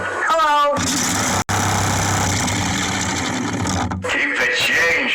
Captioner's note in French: bruits de microphone; ventilateur vrombissant